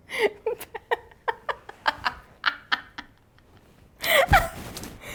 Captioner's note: laughs